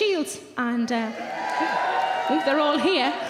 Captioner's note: audience cheering